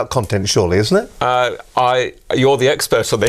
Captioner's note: laughing